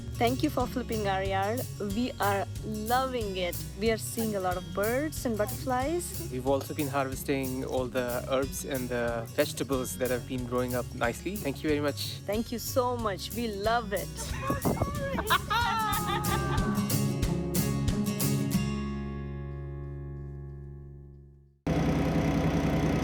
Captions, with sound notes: - Thank you for flipping our yard, we are loving it. We're seeing a lot of birds and butterflies. - We've also been harvesting all the herbs and the vegetables that have been growing up nicely. Thank you very much. - Thank you so much, we love it. (both laughing) (bright upbeat music)